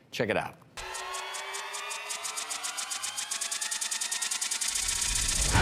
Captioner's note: flashing suspense noises